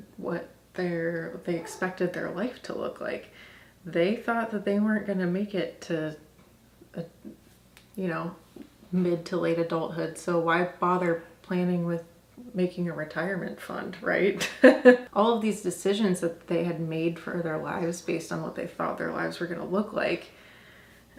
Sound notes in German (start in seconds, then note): 14.6 lacht